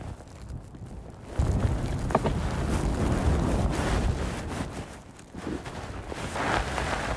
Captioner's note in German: Geräusch des Windes